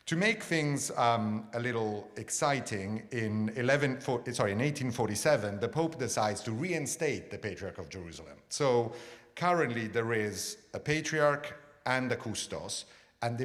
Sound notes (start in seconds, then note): none